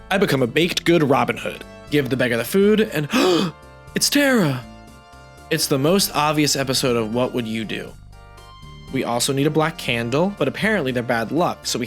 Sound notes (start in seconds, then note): 3.0 gasp